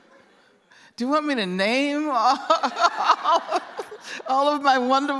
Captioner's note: laughter; laughs